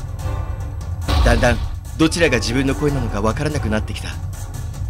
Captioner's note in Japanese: 体の衝突音：バスン！; 地面に叩きつけられる音：ドゴン！